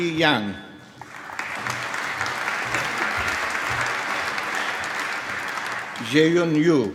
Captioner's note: applause